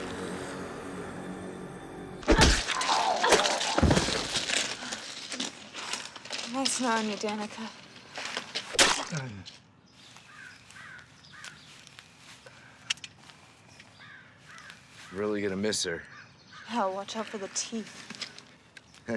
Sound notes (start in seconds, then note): 2.2 ax thuds; 3.1 zombie groans